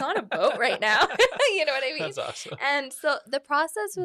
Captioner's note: both laugh